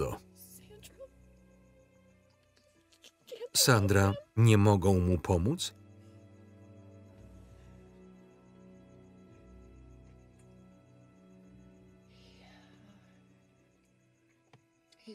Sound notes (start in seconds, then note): 5.1 crying; 12.6 sighing